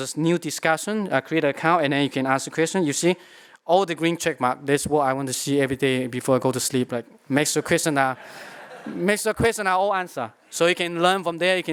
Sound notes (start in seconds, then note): 8.2 laughter